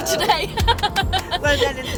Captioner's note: laughing